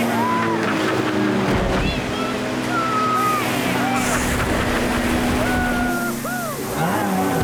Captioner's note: excited whoops